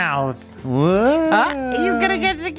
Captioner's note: moans